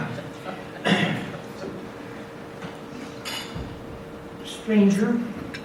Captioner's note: clears throat